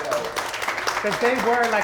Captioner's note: applause